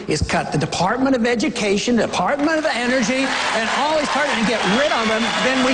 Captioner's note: cheers, applause